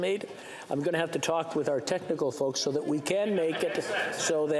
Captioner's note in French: voix de l'interprète